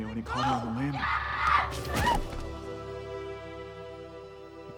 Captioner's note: Mary screaming